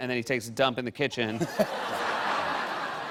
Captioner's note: laughter